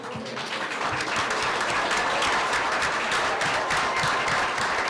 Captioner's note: applause